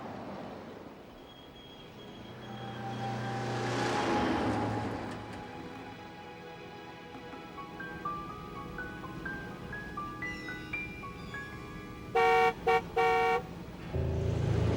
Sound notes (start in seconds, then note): 12.1 car honks